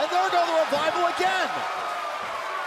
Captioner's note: crowd cheering